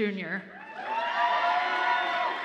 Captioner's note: audience applauds and cheers